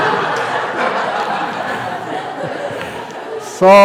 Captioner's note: laughter